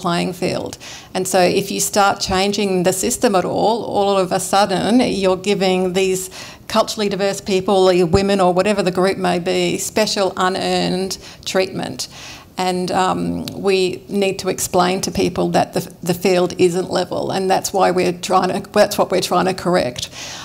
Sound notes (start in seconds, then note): none